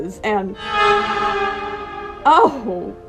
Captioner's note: horror sfx